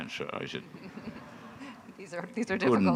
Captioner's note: audience laughing